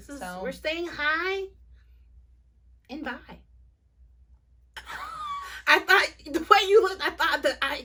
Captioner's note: laughter